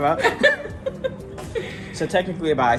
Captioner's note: both laughs